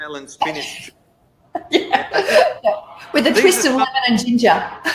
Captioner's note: laughs